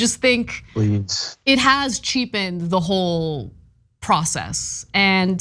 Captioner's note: laugh